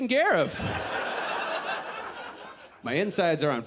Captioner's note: audience laughs